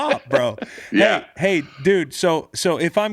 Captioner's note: laughing